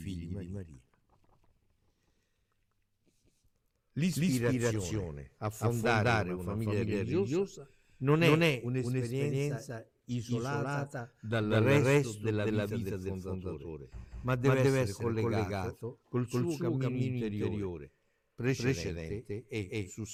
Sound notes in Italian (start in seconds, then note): none